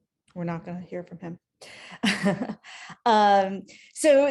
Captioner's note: laughs